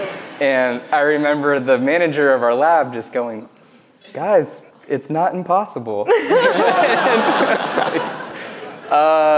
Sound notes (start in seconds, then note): 6.1 laughs